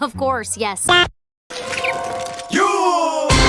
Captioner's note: finding food in the garbage noises